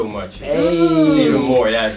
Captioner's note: cheering